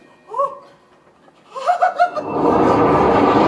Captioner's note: excited giggle from Space Core; torrential wind